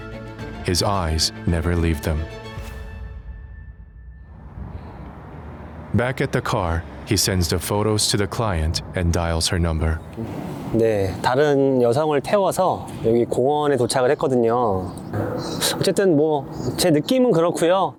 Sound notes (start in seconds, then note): 15.3 client sighs